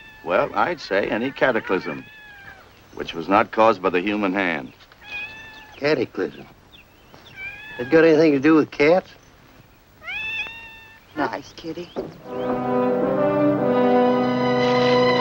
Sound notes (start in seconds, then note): 10.0 cat mewing; 12.2 dramatic music